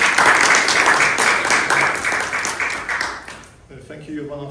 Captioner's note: applause